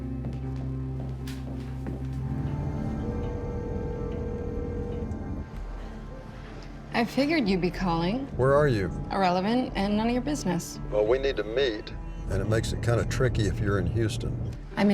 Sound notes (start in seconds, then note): 0.0 solemn music; 3.0 phone rings; 11.2 on phone